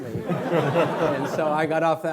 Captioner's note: laughing